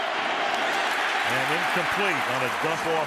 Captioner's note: cheering